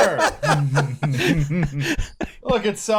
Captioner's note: laughter